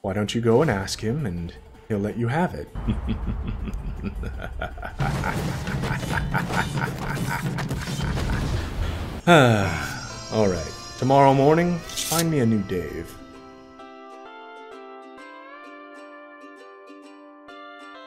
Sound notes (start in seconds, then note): 2.7 evil laughter; 5.8 sighs